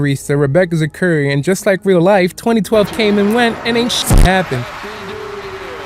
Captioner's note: glitch